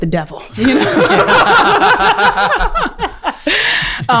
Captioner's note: laughing